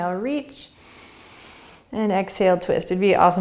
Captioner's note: inhaling